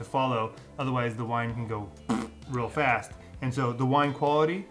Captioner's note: blows raspberries